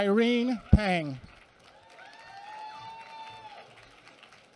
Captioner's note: applause